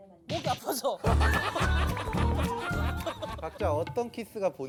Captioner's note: cracking up